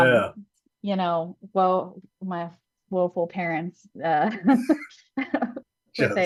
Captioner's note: laughs